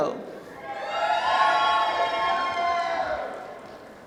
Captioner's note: applause